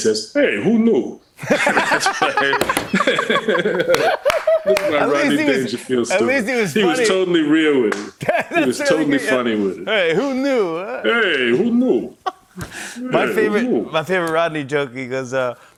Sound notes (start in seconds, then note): 1.4 laughter; 4.2 normal voice; 13.2 normal voice